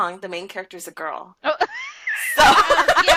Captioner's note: laughter